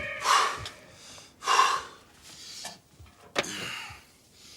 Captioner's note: breathing heavily